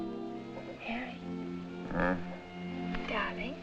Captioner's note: grunts